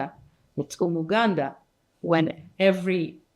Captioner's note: speaking in foreign language